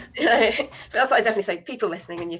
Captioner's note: chuckles